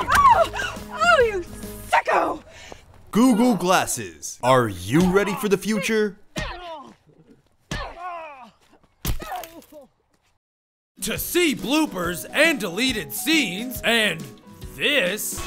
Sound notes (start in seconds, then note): 6.3 groaning; 6.4 grunting